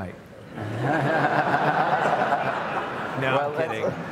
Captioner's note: audience laughs